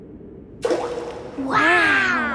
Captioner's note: rock plops